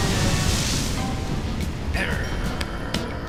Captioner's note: growls